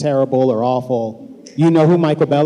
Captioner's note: shouting